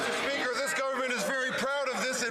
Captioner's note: some Applause